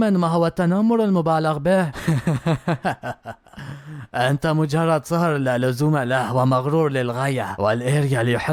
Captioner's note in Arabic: ضحك